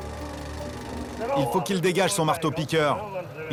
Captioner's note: foreign language spoken